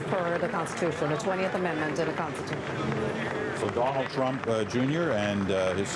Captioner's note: applause